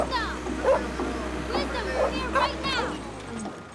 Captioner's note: dog barking